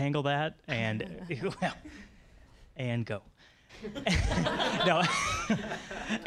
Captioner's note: audience laughing